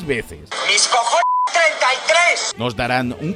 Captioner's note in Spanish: español